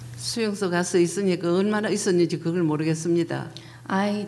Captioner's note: speaking foreign language